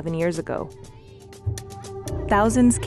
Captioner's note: chanting